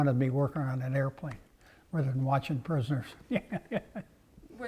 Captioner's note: laugh